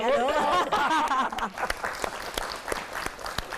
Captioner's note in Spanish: Aplauso